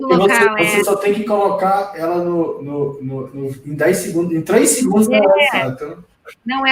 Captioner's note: multiple voices